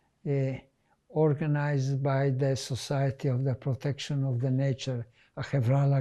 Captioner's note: hebrew